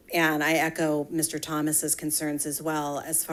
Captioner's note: none